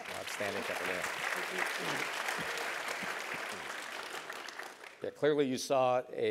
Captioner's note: applause